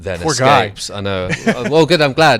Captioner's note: laughs